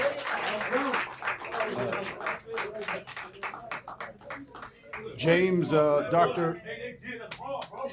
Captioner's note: applause